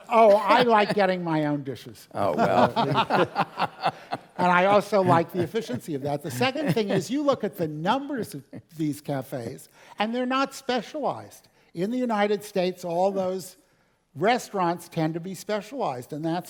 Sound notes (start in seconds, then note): 2.2 laugh